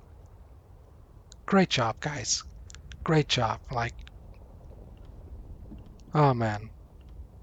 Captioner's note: sarcasm